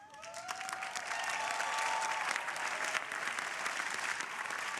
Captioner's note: crowd applauding